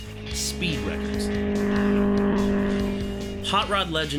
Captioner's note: car engine roaring